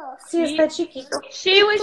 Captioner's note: foreign language